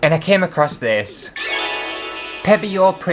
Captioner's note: sparkly Sound